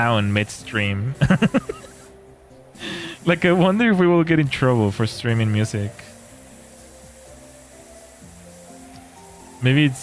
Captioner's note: laughter